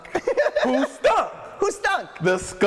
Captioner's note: laughing